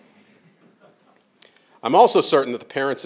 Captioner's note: crowd laughing